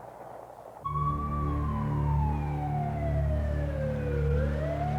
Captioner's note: sirens wail